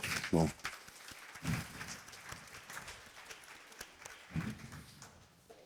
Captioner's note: applause